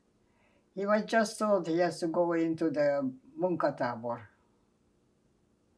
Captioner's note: non-english